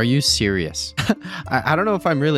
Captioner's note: laughs